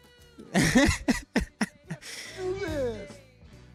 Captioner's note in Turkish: kahkaha